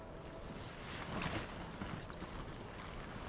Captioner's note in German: Musik verklingt; Rascheln